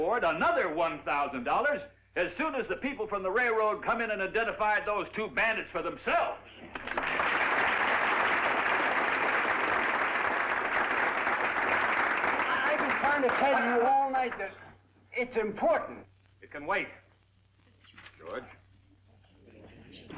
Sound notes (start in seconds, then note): 6.7 applause